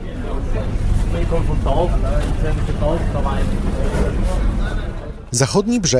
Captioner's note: street Noise